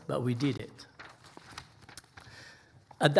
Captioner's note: pages rustling